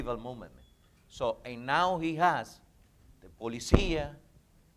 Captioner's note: speaking in foreign language